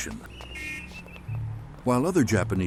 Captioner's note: traffic sounds, footsteps